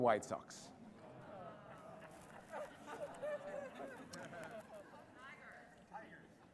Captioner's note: laughter